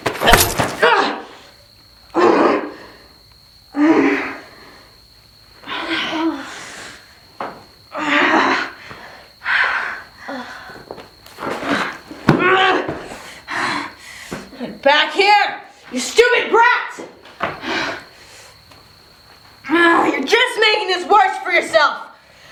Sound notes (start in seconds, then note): 0.2 Cutting sound, Lucy groaning; 5.6 Lucy and Candice groaning in pain